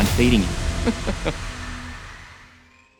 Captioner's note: laughing